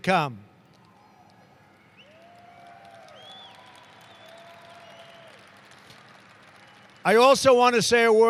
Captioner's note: applause